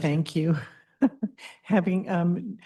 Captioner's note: chuckles